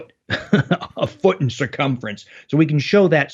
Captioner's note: laughs